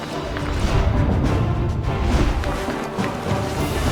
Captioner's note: dramatic music; low whooshing; dramatic music